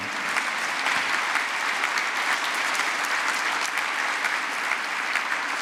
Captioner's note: applause